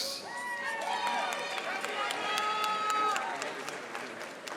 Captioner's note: audience applauding